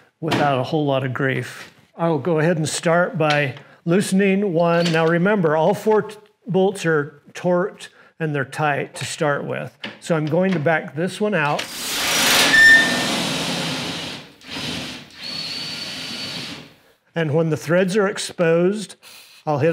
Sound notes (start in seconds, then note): 11.6 drill whirs